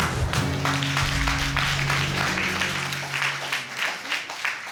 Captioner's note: applause